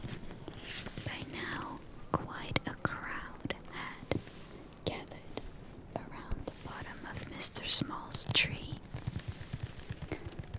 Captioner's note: taps